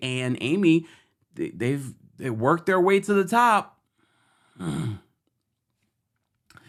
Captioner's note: growls